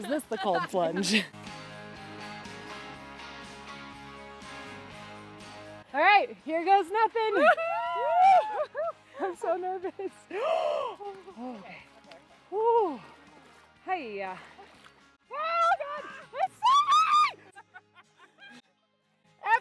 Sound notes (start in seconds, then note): 0.2 upbeat music; 7.5 everyone cheering; 17.3 everyone laughing